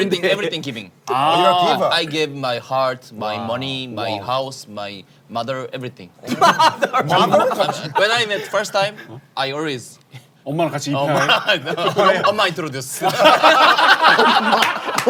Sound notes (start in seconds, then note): 6.2 studio is chattering